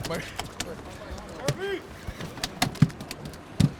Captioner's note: clattering; background chatter